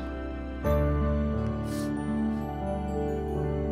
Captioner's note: Sniffs